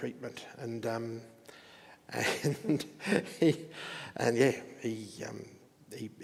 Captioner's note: chuckles